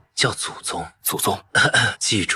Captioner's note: cough cough